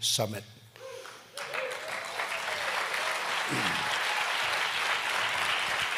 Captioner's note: applause